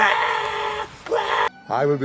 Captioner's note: sreeching